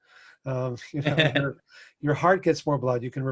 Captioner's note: laughs